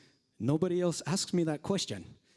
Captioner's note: uses Japanese accent